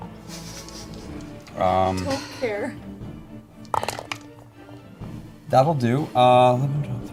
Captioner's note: laughing